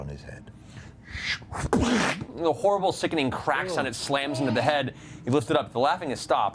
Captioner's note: splat